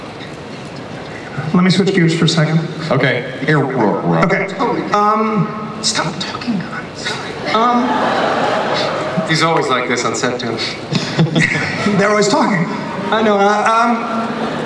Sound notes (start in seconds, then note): 7.1 audience laughs